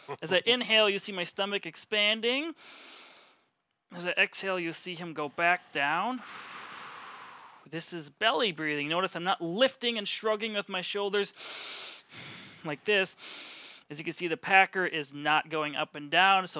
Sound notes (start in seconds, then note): 2.6 inhales; 5.3 exhales; 11.4 puffs